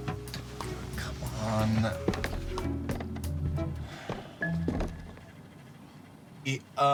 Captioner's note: footsteps thudding